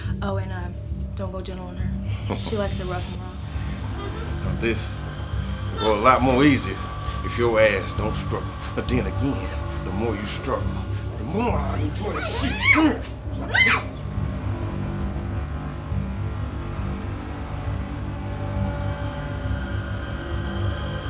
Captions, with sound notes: Oh and ah don't go gentle on her, she likes a rough and raw this'll go a lot more easier if your ass don't struggle then again the more you struggle the more I enjoy the shit. (screaming) Come here. (screaming)